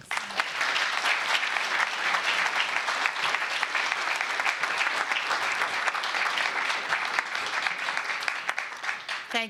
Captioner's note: applause